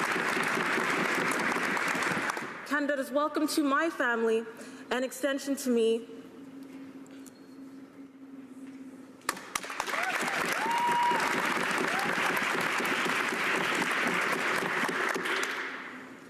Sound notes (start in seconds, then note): 2.2 cheers and applause